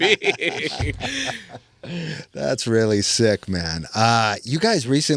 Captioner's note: laughing